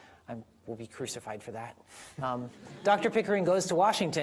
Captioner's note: audience laughing